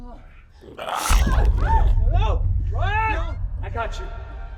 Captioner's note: gurgling; surprised yelling